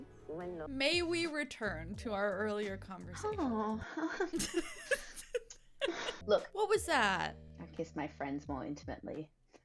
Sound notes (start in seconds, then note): 3.9 laughs